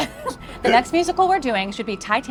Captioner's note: laughs